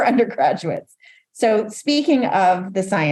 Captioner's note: laughs